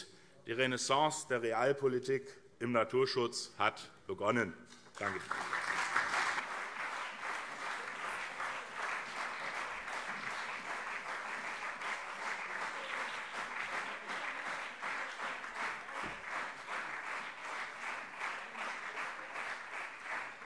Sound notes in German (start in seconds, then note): 4.9 Lebhafter Beifall CDU und SPD